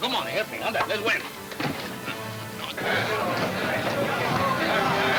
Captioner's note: men yelling simultaneously